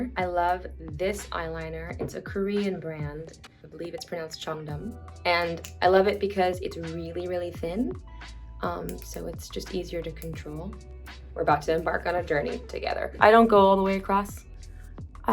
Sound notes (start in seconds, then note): 8.8 eyeliner clicks